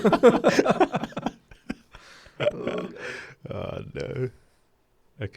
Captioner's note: laughing together